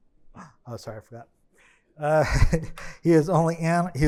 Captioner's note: chuckles